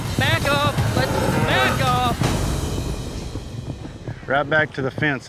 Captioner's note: mooing